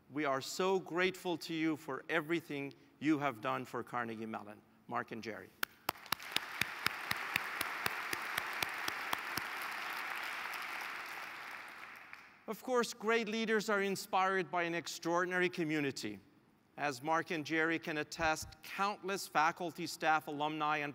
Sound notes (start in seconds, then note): 5.6 applause